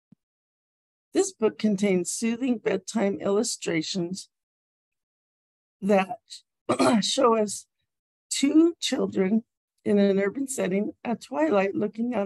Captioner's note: coughs